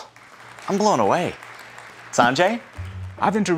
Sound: audience applauding

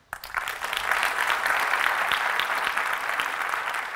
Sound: applause

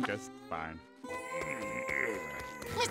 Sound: moaning

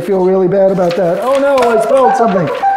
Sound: box beeping; bell rings

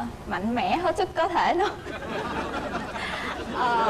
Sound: laughters

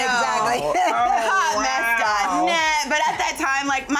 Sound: overlapping chatter

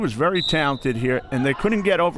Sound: whistle

